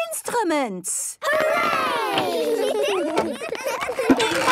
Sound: excited giggling

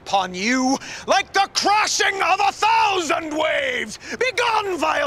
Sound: yelling

